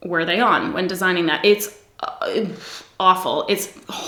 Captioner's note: sighs